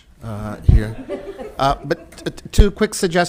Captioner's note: all laughing